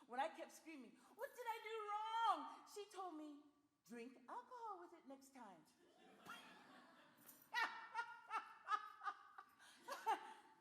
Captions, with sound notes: When I kept screaming, what did I do wrong? She told me, drink alcohol with it next time. [laughter]